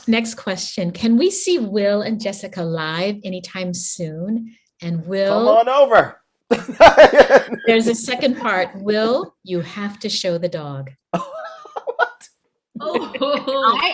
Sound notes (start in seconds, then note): 6.5 laughing; 11.1 laughing